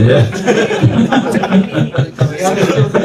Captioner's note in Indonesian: tertawa